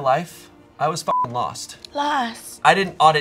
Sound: beep

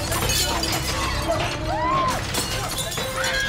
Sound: shrieking

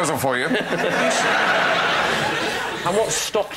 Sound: laughter

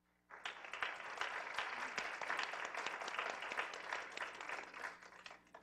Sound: applause

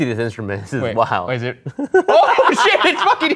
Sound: laughs

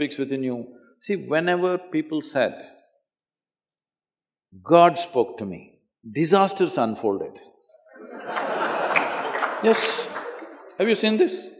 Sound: laughter

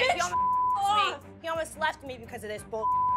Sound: beep; beep

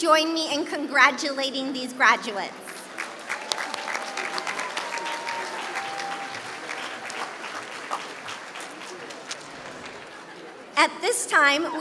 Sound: applause

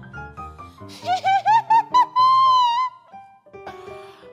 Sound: witch cackling

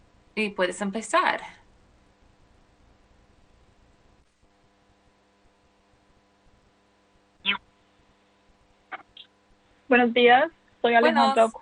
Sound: speaking spanish

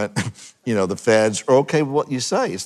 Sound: chuckling

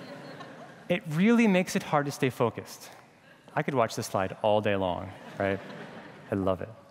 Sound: laughter

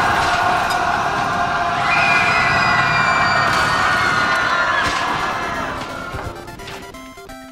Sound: crowd roaring loudly; pandemonium

